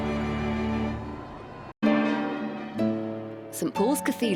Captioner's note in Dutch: publiek applaudisseert; rustige muziek